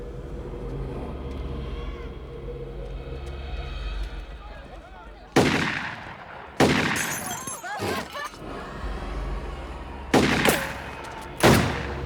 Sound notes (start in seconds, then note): 5.2 shots firing; 6.9 glass shattering; 7.6 clamoring; 10.1 firing